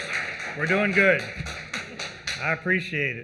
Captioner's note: applause